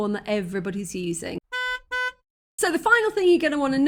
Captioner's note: car horn